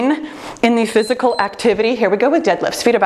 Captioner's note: timer beeps